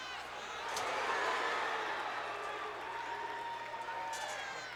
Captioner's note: crowd roars